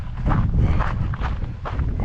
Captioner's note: wind blowing